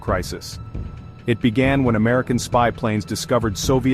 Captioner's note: voiceover